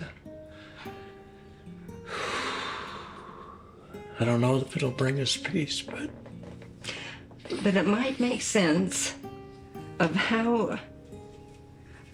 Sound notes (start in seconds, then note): 2.0 exhales deeply